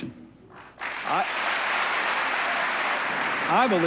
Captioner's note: applause